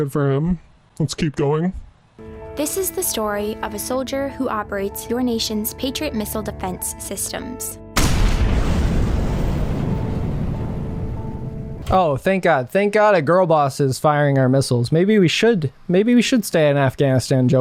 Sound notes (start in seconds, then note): 7.9 explosions